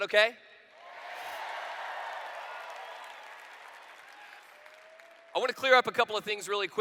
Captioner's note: cheers